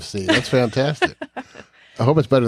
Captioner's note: chuckles